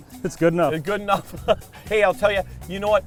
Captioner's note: laughs